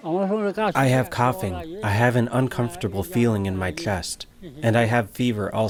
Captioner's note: through translator